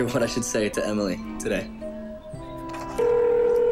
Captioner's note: phone ringing